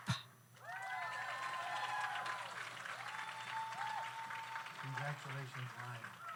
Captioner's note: audience cheers; audience applauds